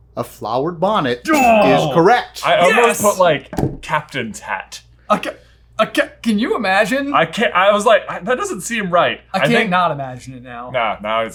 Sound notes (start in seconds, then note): 1.3 grunting; 1.5 ding